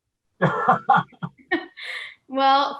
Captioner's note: laughing